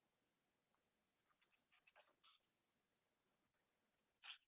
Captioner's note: pause